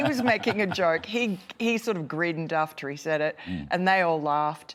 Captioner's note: laughter